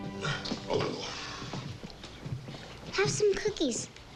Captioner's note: grunts